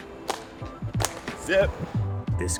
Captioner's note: hands clapping